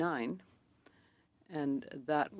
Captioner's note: speaking French